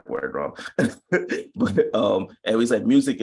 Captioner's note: chuckles